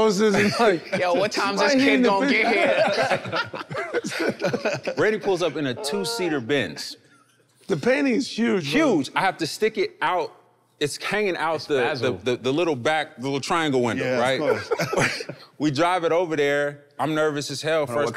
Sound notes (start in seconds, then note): 0.3 laughing amusingly; 2.4 everyone laughing amusingly